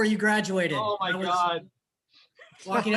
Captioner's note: laughs